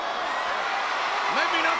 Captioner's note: crowd cheering